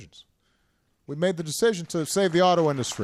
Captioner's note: applause